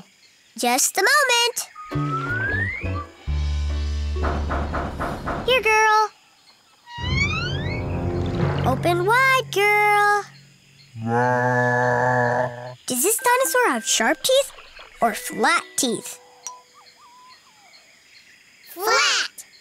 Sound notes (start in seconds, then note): 4.1 knocking